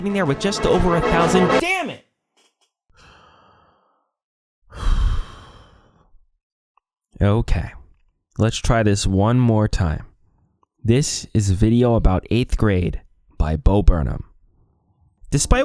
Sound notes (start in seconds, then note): 4.7 deep breath